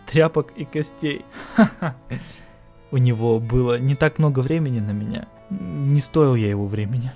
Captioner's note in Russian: смеется